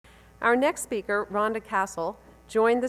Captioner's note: voiceover